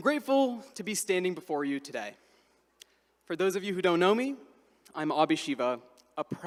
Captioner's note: none